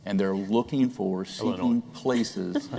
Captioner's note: laughter